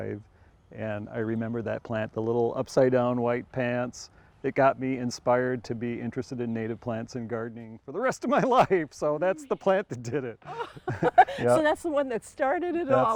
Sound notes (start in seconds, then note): 10.3 chuckling